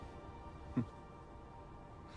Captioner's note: chuckles